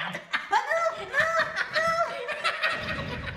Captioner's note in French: rire